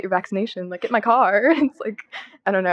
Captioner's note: laughter